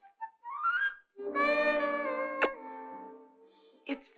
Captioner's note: sultry music; smooch